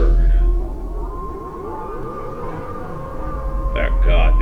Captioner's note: dog wailing in pain; gunshot